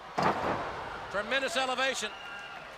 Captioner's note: crowd chatter